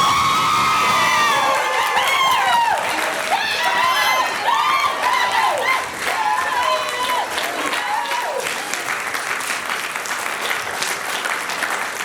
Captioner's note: applause